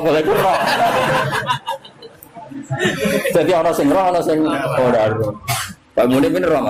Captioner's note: laughs